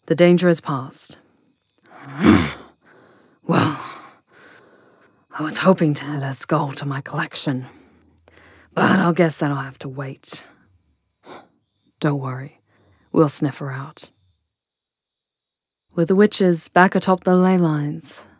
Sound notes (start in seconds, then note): 1.9 Scarlet growls, frustrated; 11.2 she huffs